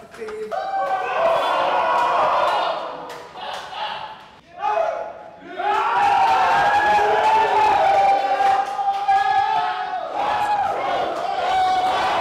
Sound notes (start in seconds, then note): 1.4 shouts, cheering